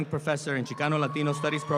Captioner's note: audience applauds